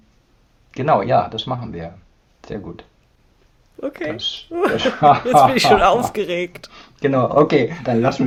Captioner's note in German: gelächter